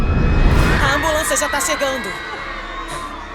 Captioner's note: girl panting